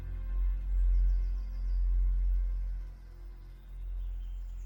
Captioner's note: birds chirping